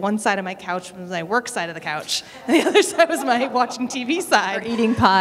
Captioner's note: laughter